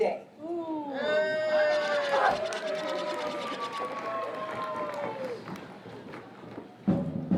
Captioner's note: cheering